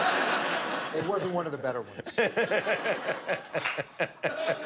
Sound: laughter

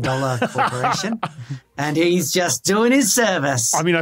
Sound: laughs

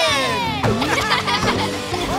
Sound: laughing

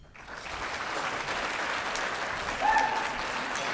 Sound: applause

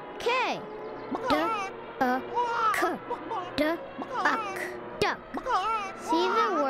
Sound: sounding out word

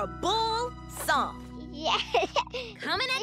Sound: giggles

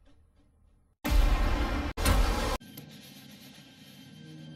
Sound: various snippeted epic sounds

